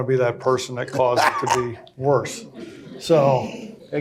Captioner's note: cackles